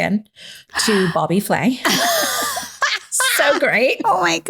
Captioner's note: laughing